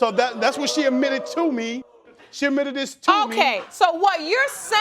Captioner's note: audience whooping